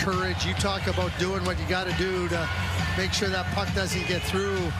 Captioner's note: fans cheering